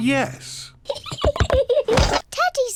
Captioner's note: giggles